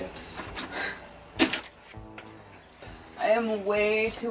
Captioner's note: Carmen sighs